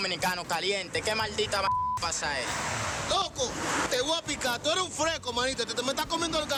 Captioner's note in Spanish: Bip